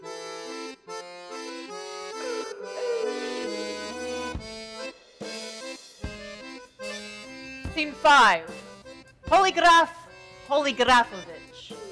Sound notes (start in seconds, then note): 2.1 Sharik softly howling; 2.5 light whimsical folk music